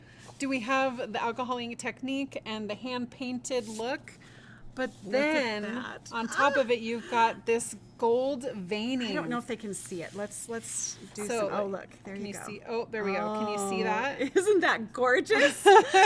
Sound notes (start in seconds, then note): 6.2 gasps